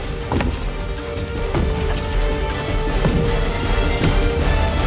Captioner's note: heavy footsteps